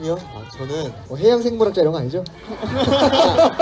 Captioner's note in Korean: 웃음